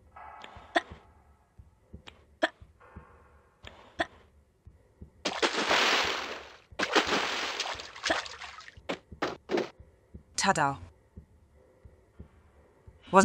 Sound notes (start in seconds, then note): 5.2 splash; 6.8 double splash